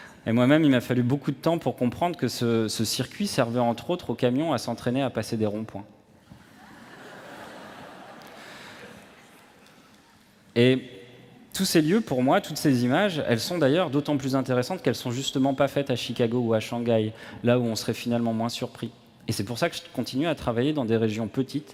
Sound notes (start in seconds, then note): 8.2 laughter